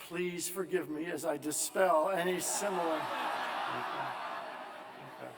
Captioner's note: laughter